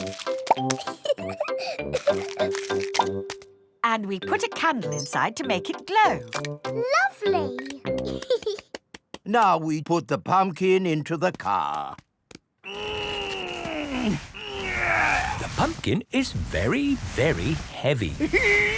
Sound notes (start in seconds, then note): 0.7 laughing; 8.0 giggles; 12.6 straining